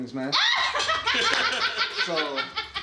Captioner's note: laughing